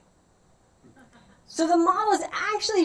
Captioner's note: laughter